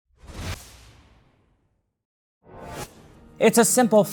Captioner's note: logo whooshing